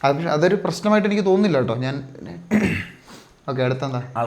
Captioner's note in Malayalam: തൊണ്ട ശരിയാക്കുന്നു; ചീറ്റുന്നു